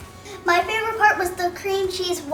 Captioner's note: happy Voice